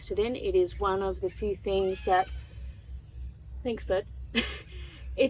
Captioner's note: loud bird; chuckles